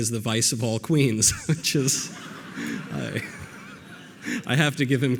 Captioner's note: audience laughter